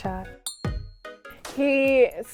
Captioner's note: glass clinking